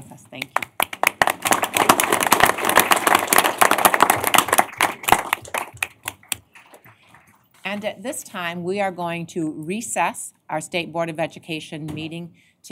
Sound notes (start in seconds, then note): 0.4 applause